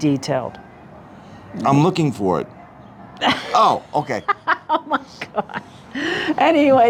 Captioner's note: laughter